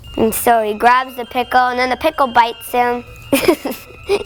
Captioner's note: chuckling